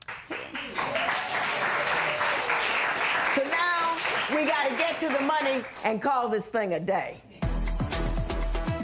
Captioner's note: applause